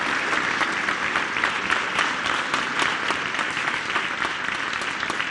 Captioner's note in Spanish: aplausos